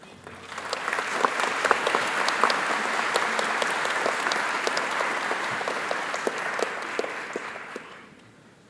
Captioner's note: audience claps